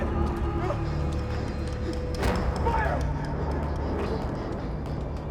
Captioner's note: panicked breathing